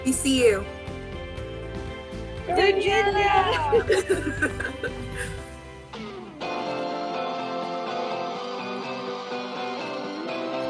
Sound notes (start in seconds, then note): 3.5 laughter